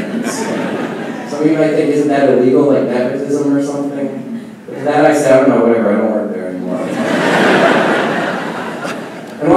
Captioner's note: laughing